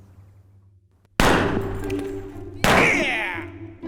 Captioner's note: gunshots